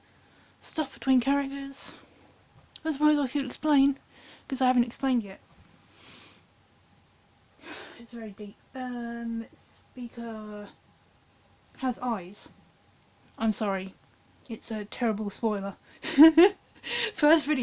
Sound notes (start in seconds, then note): 7.6 deep breath; 16.0 cant-believe-i-said-that-out-loud laugh